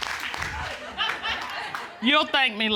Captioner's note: laughs